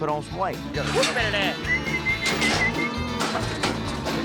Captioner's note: booger whistling